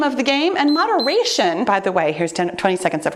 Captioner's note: timer beeps